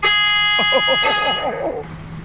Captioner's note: honk